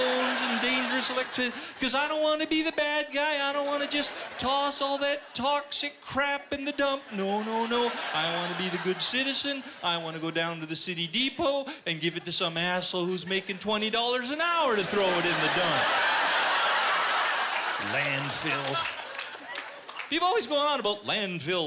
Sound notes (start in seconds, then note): 14.6 laughter